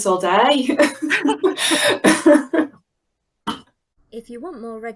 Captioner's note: laughing